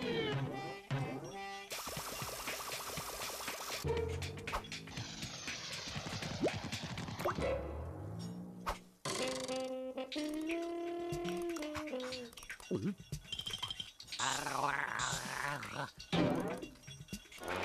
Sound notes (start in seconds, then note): 14.2 gargling